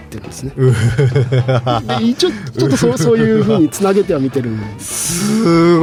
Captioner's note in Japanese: 笑い